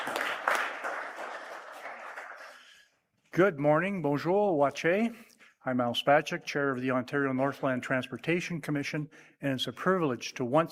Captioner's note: applause